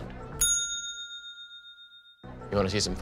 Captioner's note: bell dinging